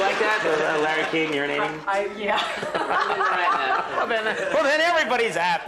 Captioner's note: laughing